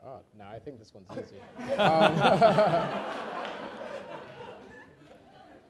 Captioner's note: laughter